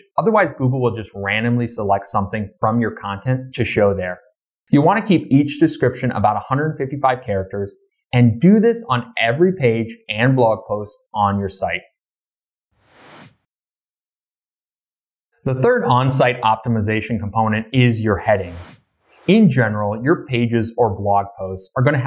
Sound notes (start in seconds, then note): 12.9 air whooshing